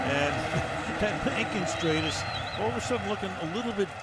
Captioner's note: chuckles